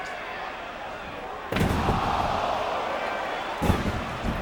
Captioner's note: Mike Awesome thuds; Tanaka thuds